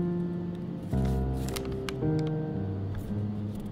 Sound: paper being unfolded

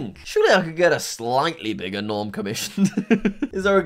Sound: laughs

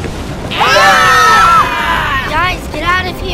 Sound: group screaming

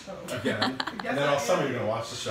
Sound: laughing

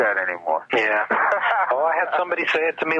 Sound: laughing

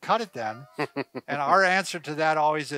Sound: laughing

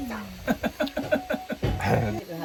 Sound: grandpa laughs loudly haha

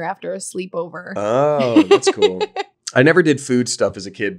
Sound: laughing

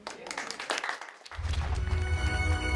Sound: clapping; inspiring music

